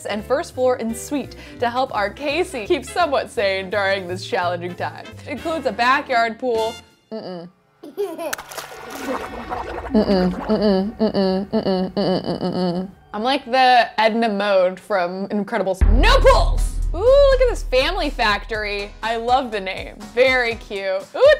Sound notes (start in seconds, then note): 7.8 child giggling; 8.3 bubbles popping